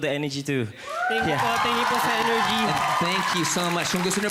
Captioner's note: crowd applauding